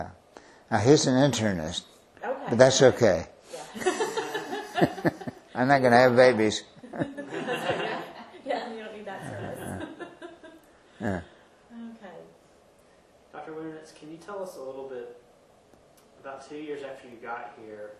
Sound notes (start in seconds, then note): 3.7 laughter